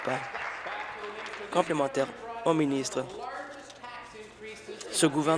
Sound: applause

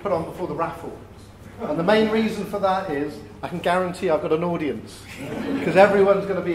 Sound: laughter

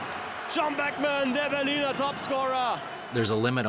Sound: sportscaster Speaking German; crowd Cheering

